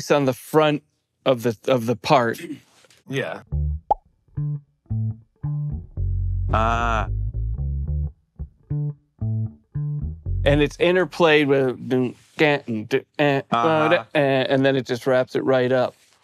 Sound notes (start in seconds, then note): 4.3 bass plays; 13.3 vocalizes